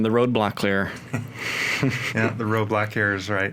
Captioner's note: all chuckle